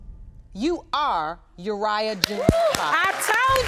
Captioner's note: audience applauding